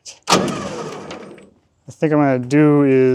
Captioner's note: machinery humming